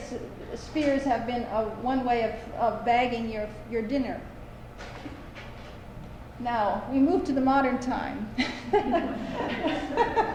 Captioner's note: laughter